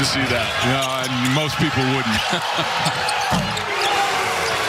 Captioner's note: laughter